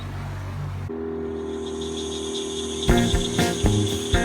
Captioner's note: boat motor whirs; uptempo instrumental blues music